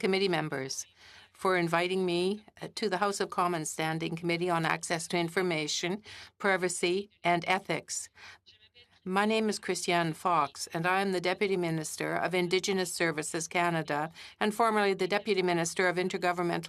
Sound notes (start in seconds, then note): 2.7 speaking French